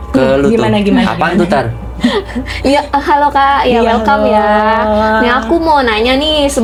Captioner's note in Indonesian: tertawa